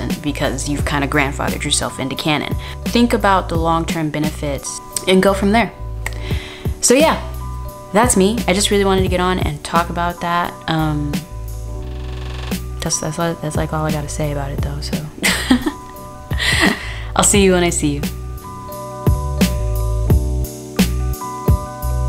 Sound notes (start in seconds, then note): 15.2 laughs; 18.0 slow electronic beats